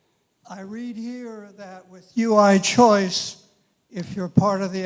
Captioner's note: voiceover